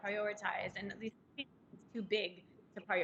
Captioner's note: crackling drowns out